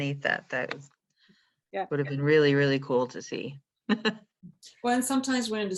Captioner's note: chuckles